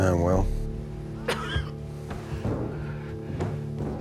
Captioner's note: coughs; tense music